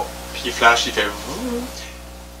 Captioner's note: vibrational muzzle noise for the K2